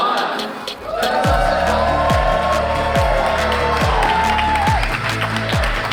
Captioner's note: participants cheer and applaud